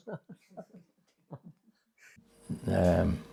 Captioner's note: laughter